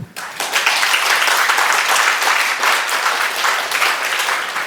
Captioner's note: audience applauding